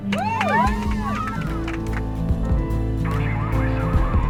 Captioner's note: women cheer